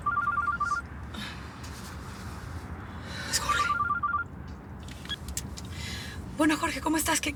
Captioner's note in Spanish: suena el celular